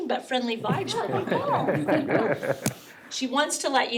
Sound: all laugh

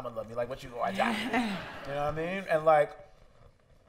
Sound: laughter

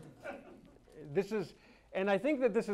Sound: audience laughs

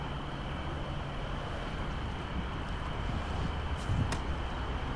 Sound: crickets chirping

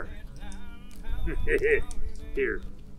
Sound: laughs

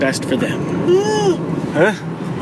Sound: yawns

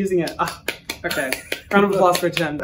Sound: claps

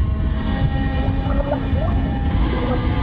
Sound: underwater yelling

